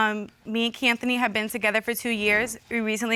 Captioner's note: none